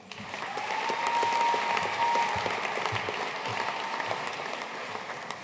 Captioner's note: audience cheering and applauding